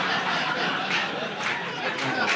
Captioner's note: audience laughing